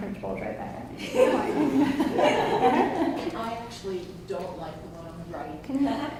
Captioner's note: audience laughs